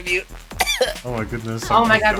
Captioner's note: chair cough